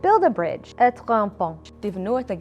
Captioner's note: in foreign language